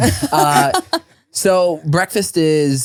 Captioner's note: laughing